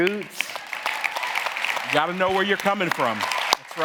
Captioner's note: audience cheering and applauding